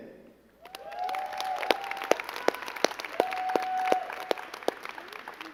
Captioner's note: crowd cheering and clapping